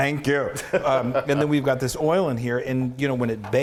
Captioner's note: laugh